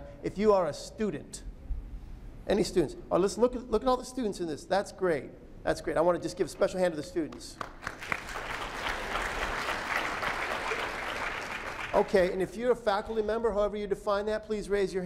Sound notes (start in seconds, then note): 11.0 applause